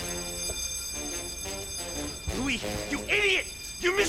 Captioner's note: alarm continues; dramatic music